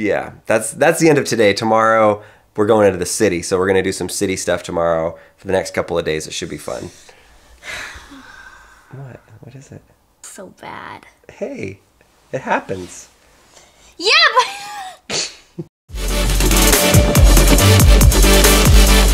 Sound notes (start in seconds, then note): 14.4 laughing; 15.9 high energy music